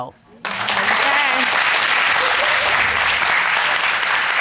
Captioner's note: audience applauding